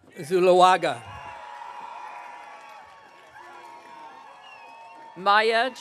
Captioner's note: audience cheering